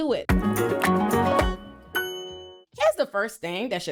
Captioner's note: bell dings